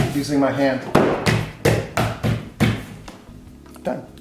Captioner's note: banging